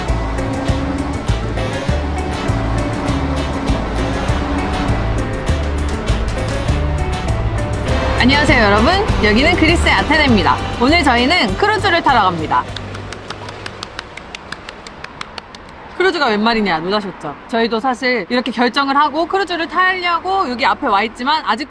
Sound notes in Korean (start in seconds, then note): 12.7 박수